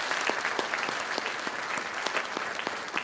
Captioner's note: applause